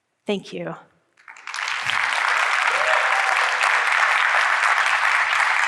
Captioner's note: audience clapping